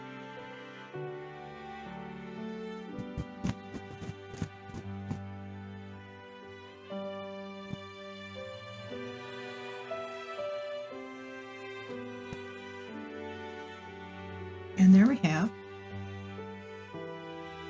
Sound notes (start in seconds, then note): 3.0 sound of fabric being shaken out